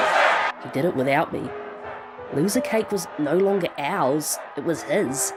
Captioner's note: crowd chanting; narrating